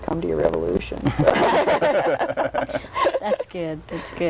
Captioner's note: group laughs